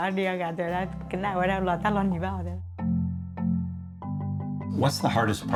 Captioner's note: speaking in foreign language